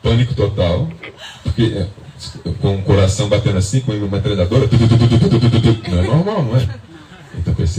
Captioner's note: simulates noise